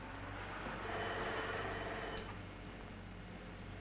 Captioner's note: bell rings